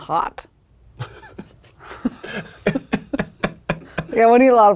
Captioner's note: laughing